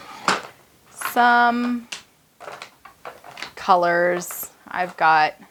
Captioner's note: markers rattling